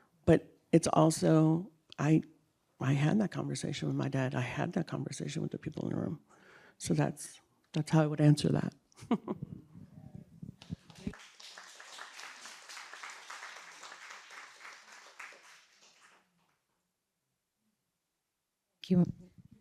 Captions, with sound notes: But it's also-- I had that conversation with my dad. I had that conversation with the people in the room. So, that's how I would answer that. (applause)